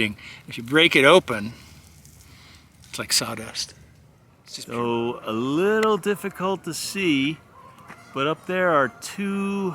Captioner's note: geese honking in background